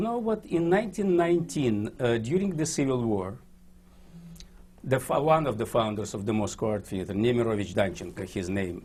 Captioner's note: russian